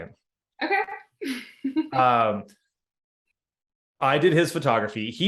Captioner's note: laughing